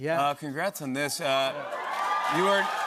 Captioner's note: cheers and applause